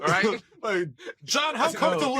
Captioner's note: laughing